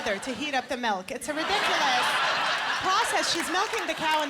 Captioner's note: laughter